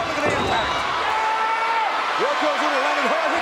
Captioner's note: crowd cheering